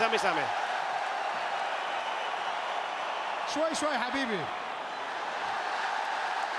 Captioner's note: applause